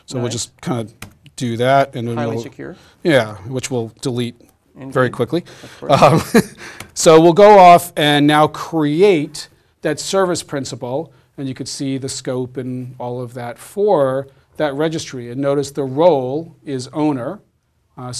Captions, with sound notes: >> So we'll just kind of do that. >> Highly secure. >> Yeah which we'll delete very quickly. [LAUGH] So we'll go off and now create that service principle. And you can see the scope and all of that for that registry. And notice the role is owner.